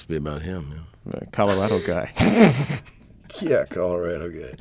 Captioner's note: laughing